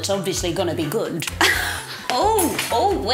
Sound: laughs

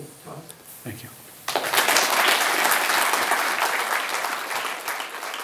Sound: applause

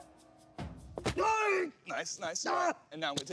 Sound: groans

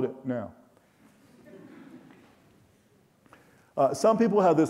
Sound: audience chuckling

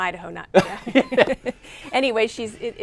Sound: laughter

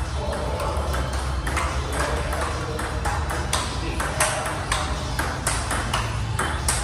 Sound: upbeat music in background; ball tapping rapidly

